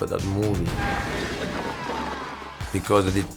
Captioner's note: wall cracking